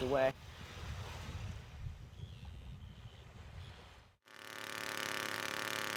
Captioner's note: water swishing gently; soil core drilling sounds